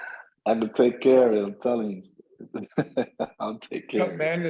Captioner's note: laughs